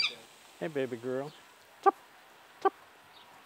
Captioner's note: bird call